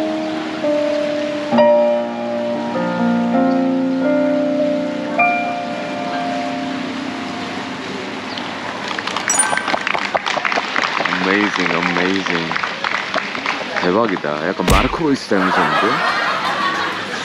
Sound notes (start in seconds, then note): 10.0 endless applause